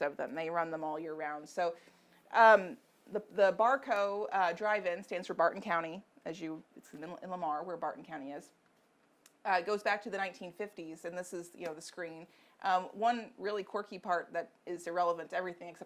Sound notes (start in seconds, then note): none